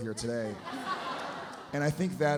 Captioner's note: audience laughs